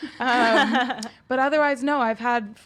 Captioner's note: laugh